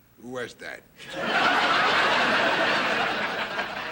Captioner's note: audience laughing